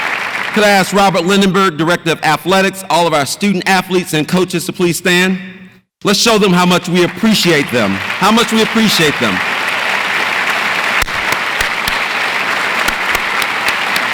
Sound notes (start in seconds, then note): 7.0 audience applauds